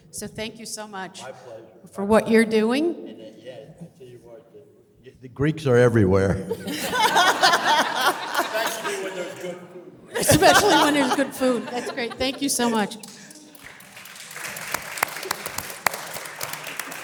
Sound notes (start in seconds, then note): 6.5 audience laughs; 13.8 audience applause